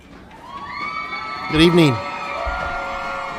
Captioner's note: cheering, yelling